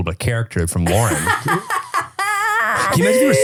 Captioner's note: laughing